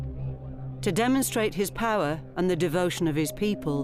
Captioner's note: none